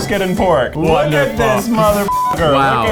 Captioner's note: beep